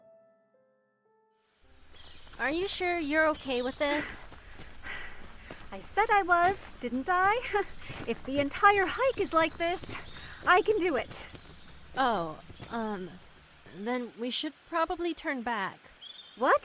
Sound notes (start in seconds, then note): 4.8 panting